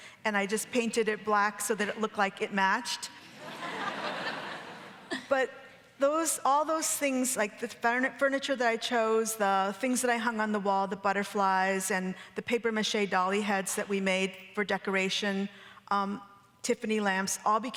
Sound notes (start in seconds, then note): 3.3 audience laughing